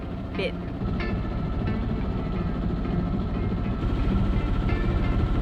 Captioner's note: boat engine humming